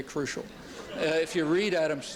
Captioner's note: laughter